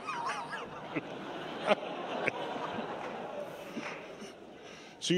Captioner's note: laughter